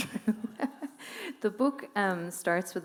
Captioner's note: laughing